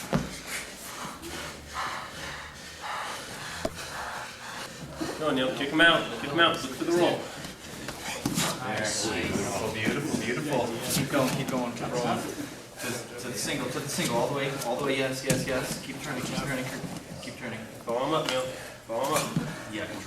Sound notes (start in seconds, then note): 0.0 soft thudding; 2.7 heavy breathing; 8.6 men encouraging fighters